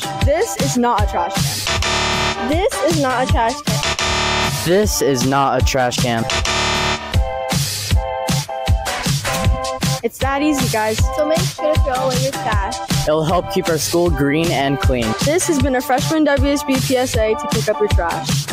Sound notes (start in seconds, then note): 1.6 wrong answer buzz sound effect; 6.2 wrong answer buzz sound effect; 9.9 music under